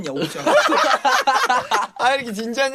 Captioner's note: hysterical laughter from everyone XD